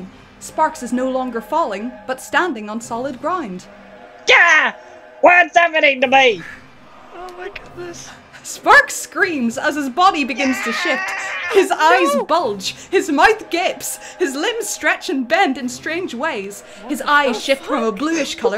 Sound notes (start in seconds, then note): 10.3 screaming; 17.2 scared laughter